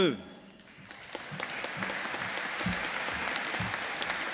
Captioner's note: audience applauding